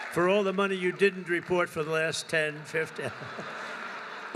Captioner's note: laughter